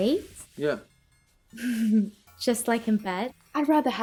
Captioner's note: chuckles